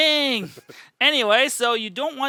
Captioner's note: laughs